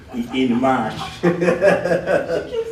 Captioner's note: laughter